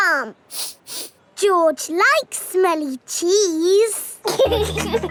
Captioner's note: sniffs; laughing